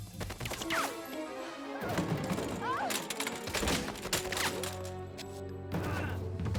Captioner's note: suspenseful music; guns firing